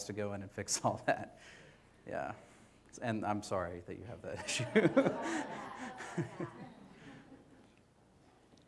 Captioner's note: audience laughter; laughs